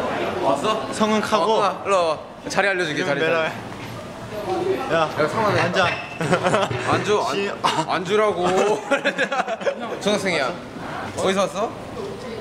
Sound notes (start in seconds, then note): 6.2 laughs; 8.9 laughs